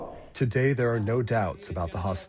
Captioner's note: through translator